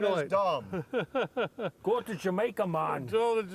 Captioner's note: laughing